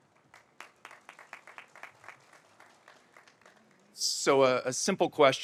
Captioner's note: audience applauds